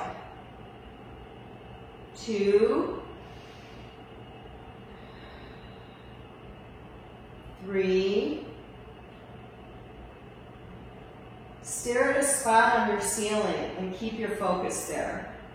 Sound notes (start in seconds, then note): 4.7 exhales; 4.8 inhales